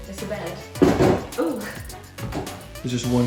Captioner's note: bed creaks